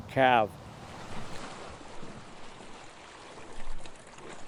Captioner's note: waves splashing